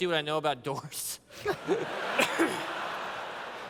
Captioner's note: laughter